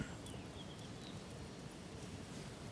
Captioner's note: birds chirping